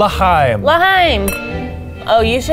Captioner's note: glasses clinking